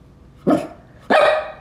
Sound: ruff

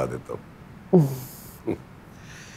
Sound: laughs

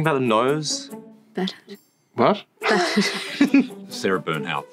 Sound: laughing

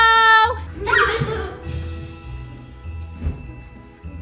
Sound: children giggle; carol music plays

